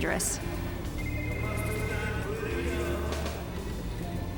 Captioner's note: phone ringing